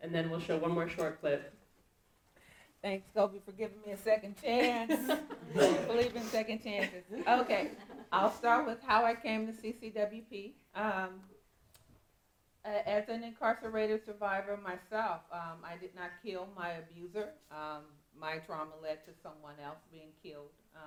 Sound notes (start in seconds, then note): 4.6 laughing